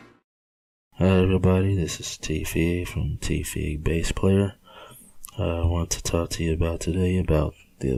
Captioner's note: male Speaking